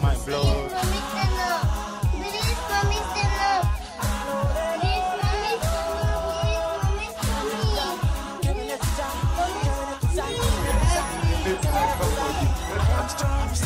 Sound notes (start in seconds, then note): 10.1 all chattering